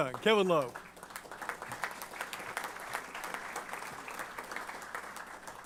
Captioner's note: applause